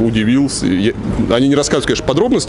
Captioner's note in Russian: none